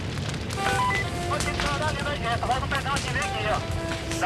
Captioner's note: Portuguese spoken audio